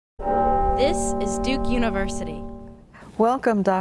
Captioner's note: bell chiming